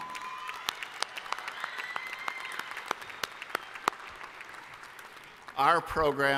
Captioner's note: applause